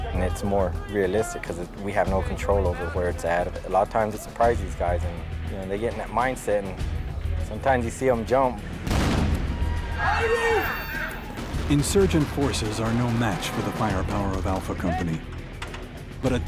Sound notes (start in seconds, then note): 8.8 explosions and screaming; 11.9 voiceover